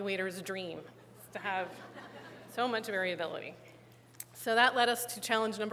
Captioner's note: laughter